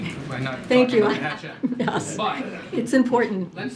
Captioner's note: laughter